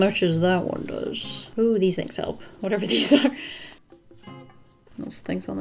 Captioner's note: laughs